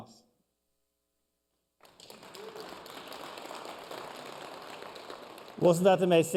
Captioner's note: applause